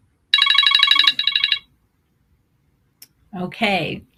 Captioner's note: timer chiming